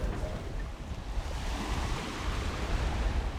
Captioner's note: waves crashing